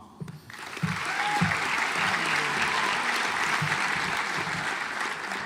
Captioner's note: audience applauds